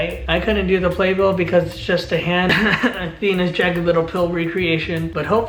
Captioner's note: cough cough